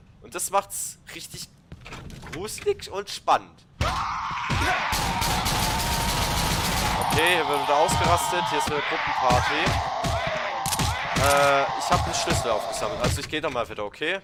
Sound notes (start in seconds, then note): 3.8 screams and fast glock shots